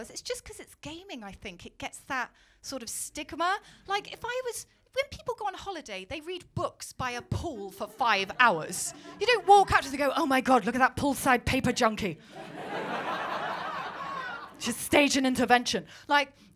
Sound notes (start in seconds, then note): 12.2 laughter